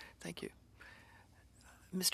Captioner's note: speaking French